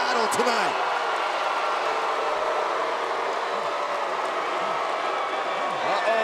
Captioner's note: crowd cheers and jeers